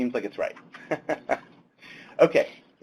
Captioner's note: laughs